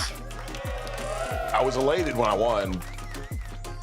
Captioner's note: crowd cheers